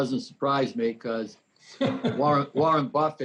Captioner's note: person laughs